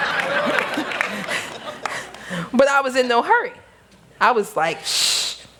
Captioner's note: laughter